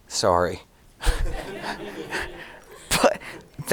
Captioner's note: audience laughing